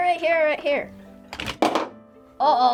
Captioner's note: cover clatters